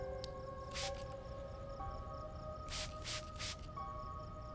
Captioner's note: perfume spraying; soft suspenseful music